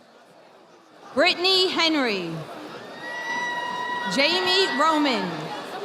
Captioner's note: audience applauding